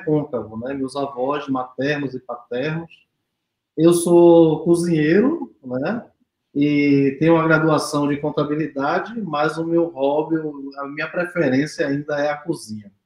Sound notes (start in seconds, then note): 0.0 speaks portuguese